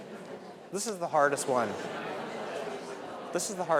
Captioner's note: audience members discuss amongst themselves